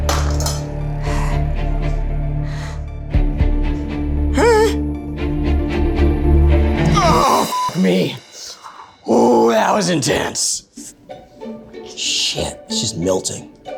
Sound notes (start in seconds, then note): 0.0 plates clinking; 4.6 gasping; 6.8 groaning; 8.9 beeping